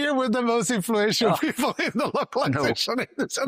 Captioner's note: laughs